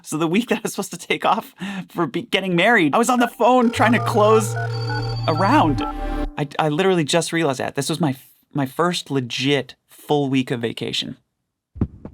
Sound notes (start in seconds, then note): 3.1 phones ringing